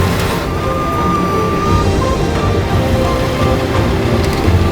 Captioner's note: tow truck winch whirring